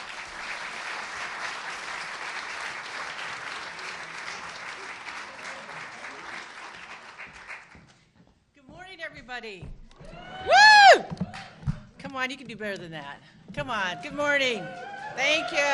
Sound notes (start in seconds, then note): 5.3 applause; 13.9 cheers and applause